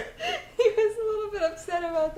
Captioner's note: laughter